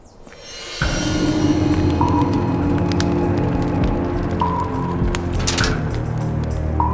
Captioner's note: fire crackling; dramatic music